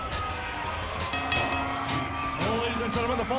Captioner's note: bell ringing